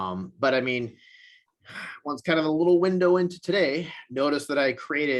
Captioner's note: sighs